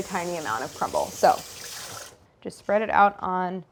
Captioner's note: water sloshing